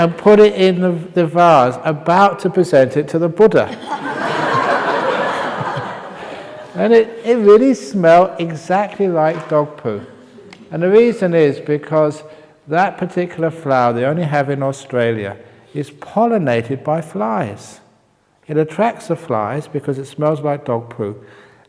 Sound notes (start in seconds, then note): 3.6 laughter